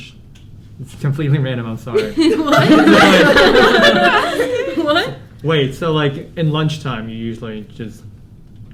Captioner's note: giggles